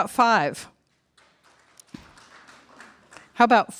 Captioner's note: mild applause